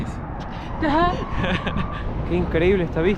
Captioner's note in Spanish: Risas